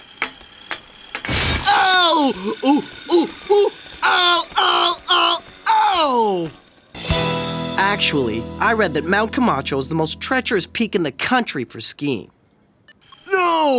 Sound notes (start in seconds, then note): 1.5 thudding